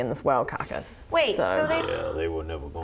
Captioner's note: gasp